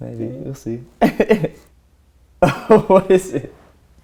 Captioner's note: laughter